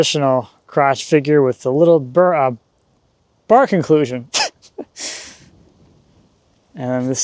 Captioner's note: laughs